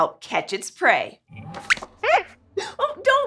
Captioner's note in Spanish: Squeaks chirría